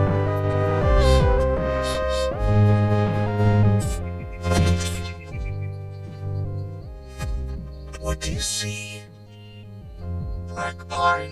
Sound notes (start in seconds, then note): 0.9 sniffing